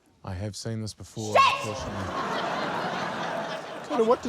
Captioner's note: laughter